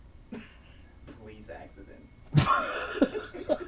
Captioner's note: laughing; laughs